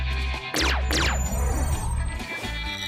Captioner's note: laser sfx